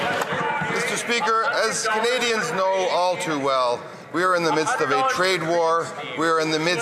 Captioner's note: some Applause